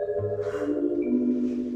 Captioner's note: sighs